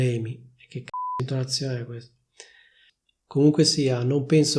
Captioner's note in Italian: beep